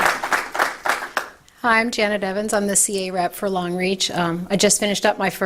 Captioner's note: applause